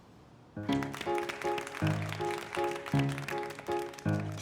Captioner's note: begins to play a pleasant piano tune; applause